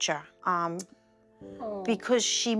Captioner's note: tsks